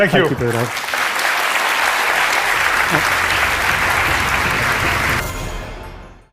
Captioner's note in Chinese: 掌聲